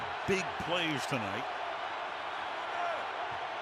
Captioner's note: cheering